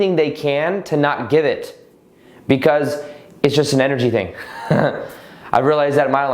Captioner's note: laughs